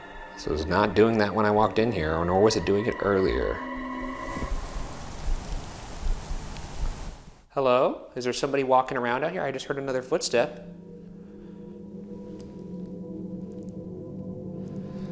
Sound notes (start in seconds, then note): 4.2 white noise shushing; 11.8 eerie music